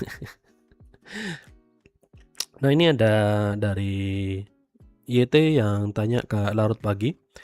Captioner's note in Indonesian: terkesiap; tertawa